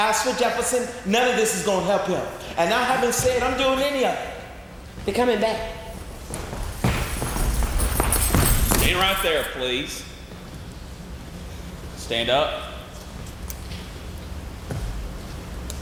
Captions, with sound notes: As for Jefferson, none of this is gonna help him. And I haven't said I'm doing any of it. - They're coming back. (footsteps thumping) (chains rattling) - Stand right there please. Stand up.